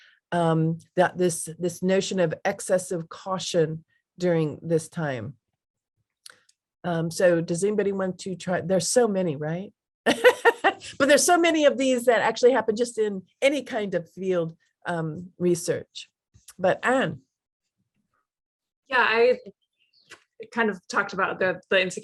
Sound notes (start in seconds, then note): 10.0 laughs